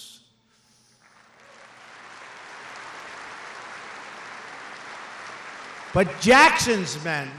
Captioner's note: applause